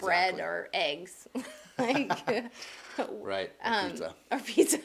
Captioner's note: chuckles